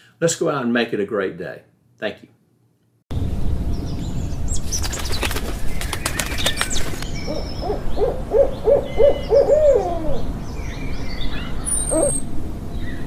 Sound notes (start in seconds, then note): 3.7 birds chirping; 4.5 wings flapping; 7.1 owl hooting